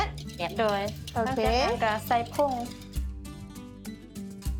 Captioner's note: foreign language